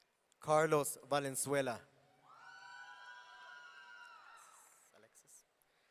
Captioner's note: audience cheering